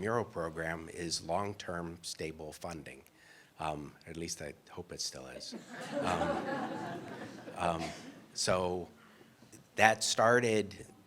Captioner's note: laughter